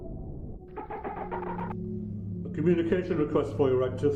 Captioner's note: ship chirps